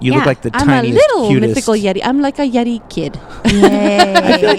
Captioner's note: laughs